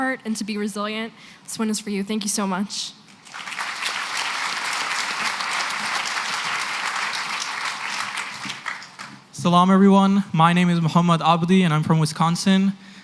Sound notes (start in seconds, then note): 3.2 applause